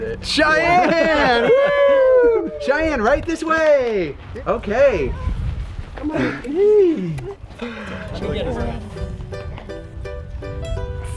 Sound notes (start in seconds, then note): 0.4 all cheering; 8.3 cheerful music